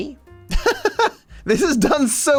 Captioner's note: laughs